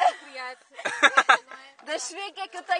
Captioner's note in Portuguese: Risos